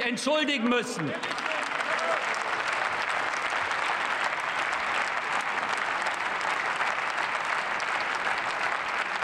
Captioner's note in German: Beifall